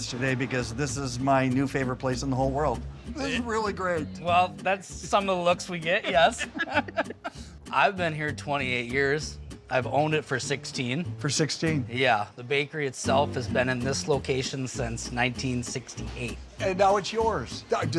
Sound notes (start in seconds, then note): 5.9 both laughing